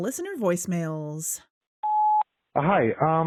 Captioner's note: beep